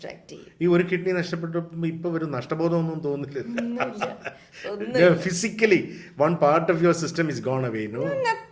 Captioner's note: laughs